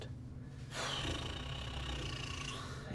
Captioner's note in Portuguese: suspiro